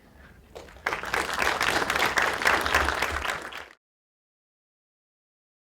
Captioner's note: applause